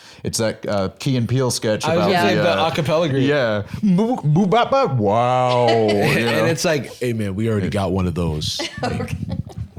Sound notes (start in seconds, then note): 7.1 deep voice